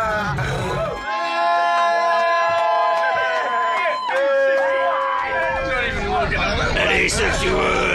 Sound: cheers

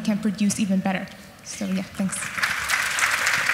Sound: audience applauds

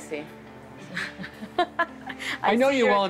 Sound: laughs

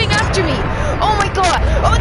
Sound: gasps

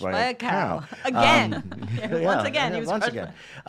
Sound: laughing

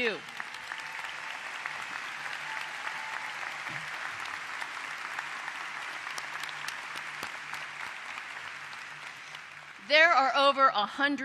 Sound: applause

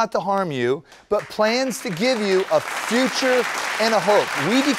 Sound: applause

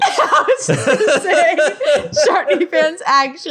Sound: laughing

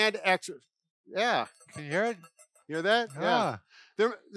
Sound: medicine ball ringing

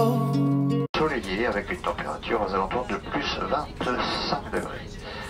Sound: speaking in French over intercom

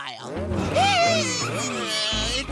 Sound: grunting

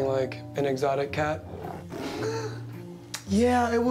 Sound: exotic cat roars

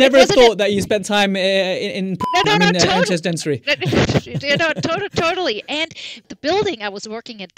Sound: beep

